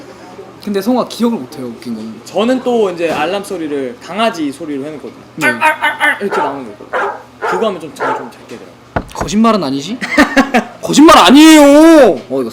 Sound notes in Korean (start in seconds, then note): 6.8 강아지 짖는 소리